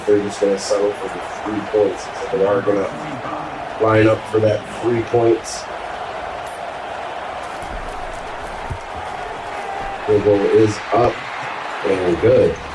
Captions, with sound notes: if they're just gonna settle for the three points. They are gonna line up for that three points. [Crowd Noises] The ball is up and good.